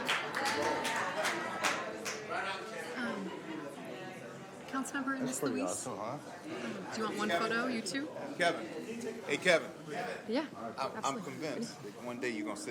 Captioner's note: applause